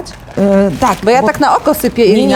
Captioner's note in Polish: szeleszczenie, brzdęk naczyń